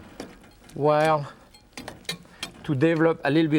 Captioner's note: knife clinking